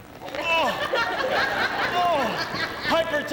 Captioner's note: groaning